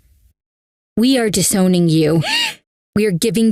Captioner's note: Fiona gasps